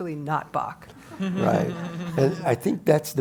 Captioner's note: laugh